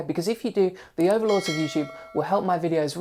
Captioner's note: bell rings